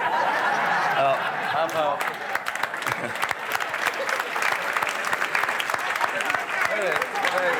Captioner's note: guests laughing; guests clapping